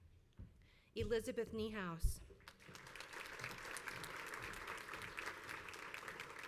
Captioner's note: crowd applauds